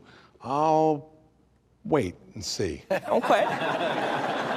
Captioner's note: audience laughing